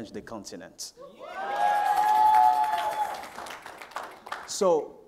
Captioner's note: crowd cheering